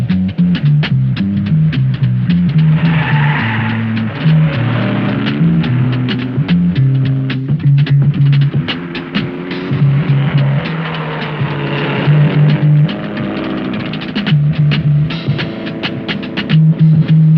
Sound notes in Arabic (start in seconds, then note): 3.0 صرير الإطارات; 5.1 موسيقى الجاز المشوقة